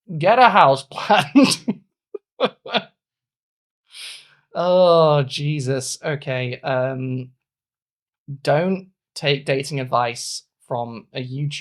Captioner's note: speaking in German